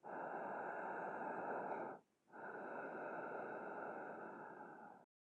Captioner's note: murderer breathes deeply